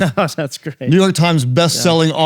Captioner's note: chuckling